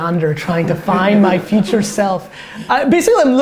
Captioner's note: group laughter